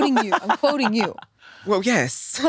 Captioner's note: laughs